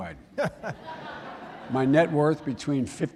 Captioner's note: laughter